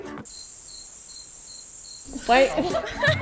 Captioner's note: chirping